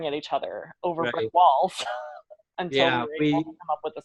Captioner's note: laughs